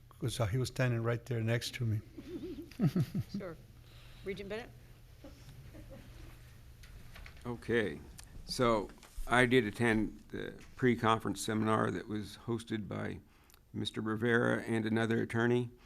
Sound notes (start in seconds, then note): 2.1 members giggling